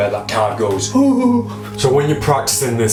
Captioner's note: shivers